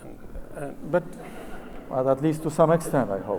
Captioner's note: audience laughs